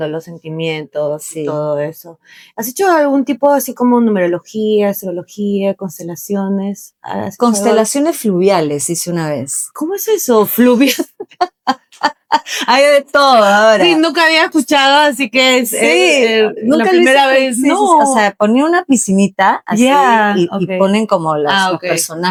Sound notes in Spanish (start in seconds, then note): 10.8 risas